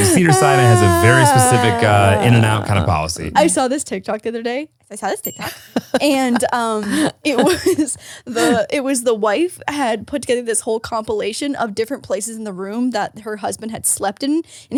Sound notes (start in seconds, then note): 5.2 bell dinging